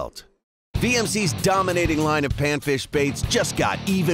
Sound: voiceover

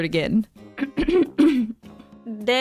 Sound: clears throat

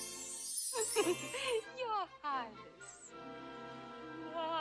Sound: giggles

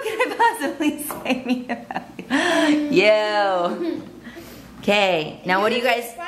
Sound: laughs; laughing

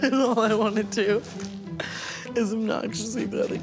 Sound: Tana laughing

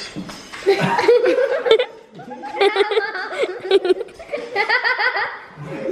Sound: laughter

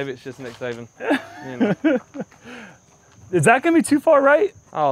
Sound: laughs

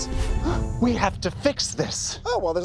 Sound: gasps

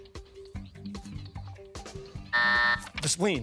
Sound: buzzer

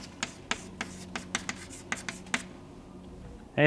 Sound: chalkboard writing

